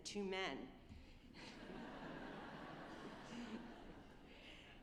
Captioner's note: all laughing